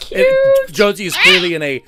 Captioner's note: parrot screech